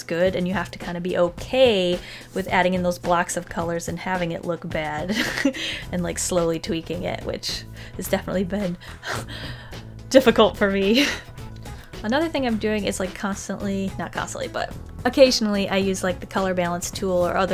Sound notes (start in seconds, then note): 5.1 laughs; 8.8 sighs; 10.8 laughs